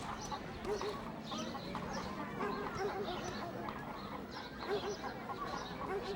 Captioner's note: distant barking, chickens squawking